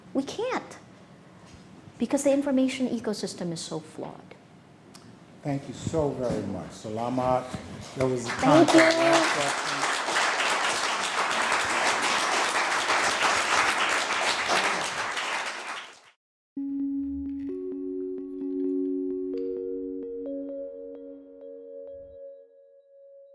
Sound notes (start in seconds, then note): 9.4 audience clapping; 16.9 lively upbeat music